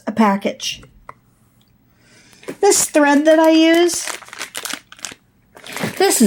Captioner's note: sounds of crunching plastic